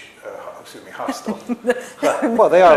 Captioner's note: laughter